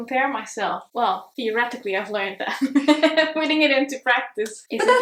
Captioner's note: chuckles